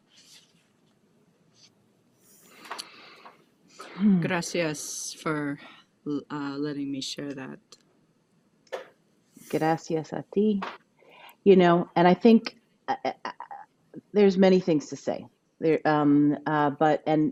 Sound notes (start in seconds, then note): 9.4 speaking a foreign language